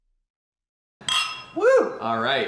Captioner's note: clinking glasses